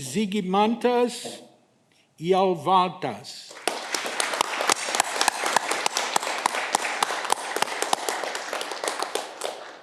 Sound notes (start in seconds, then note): 3.5 audience clapping